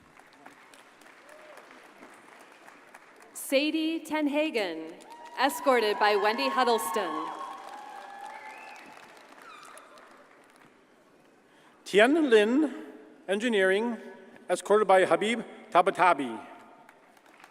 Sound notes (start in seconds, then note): 0.0 audience applauds; 7.2 audience cheers and applauds; 16.9 audience applauds